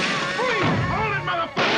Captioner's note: gunshots